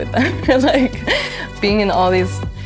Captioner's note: laughs